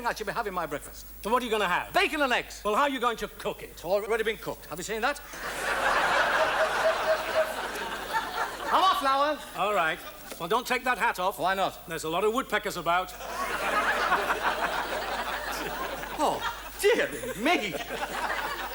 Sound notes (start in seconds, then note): 5.2 audience laughs; 13.2 laughs; 15.2 audience laughs